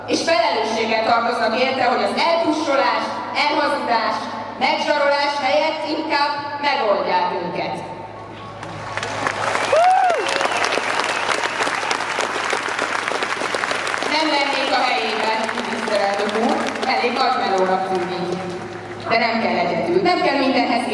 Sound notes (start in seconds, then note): 8.6 applause